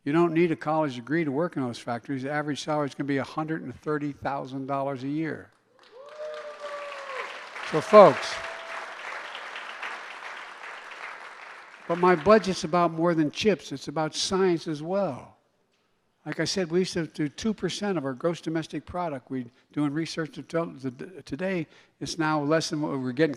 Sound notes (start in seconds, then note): 5.6 applause